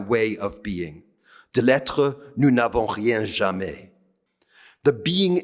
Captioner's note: speaking french